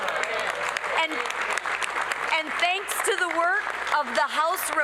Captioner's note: applause